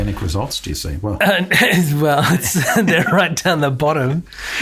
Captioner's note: laughs